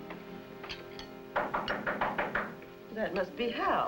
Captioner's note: knock